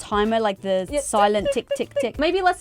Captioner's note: clock ticking